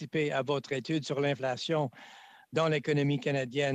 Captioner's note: speaking French